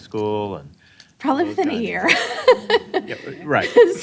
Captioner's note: laughing